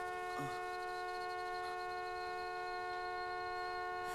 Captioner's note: Dexter groans weakly